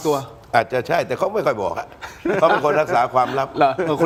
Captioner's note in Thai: เสียงหัวเราะ